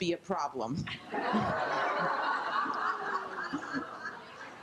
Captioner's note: group laughs